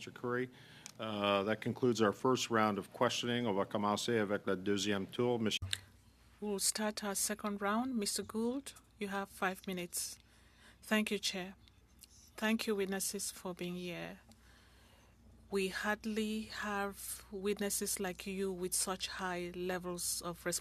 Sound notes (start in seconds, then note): 8.9 speaking French